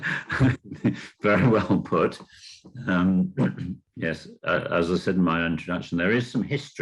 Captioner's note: laughing